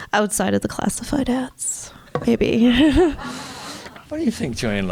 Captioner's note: chuckles